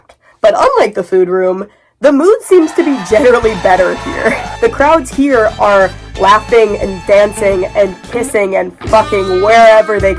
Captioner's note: crowd cheering; sexy music